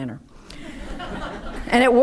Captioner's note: audience laughing